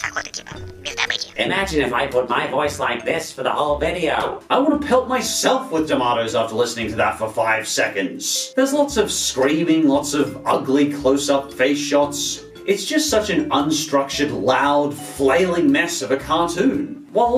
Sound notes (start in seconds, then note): 1.3 distorted